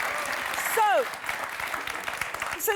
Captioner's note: clapping and cheering